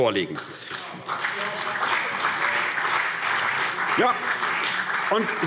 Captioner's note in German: Beifall CDU - Zuruf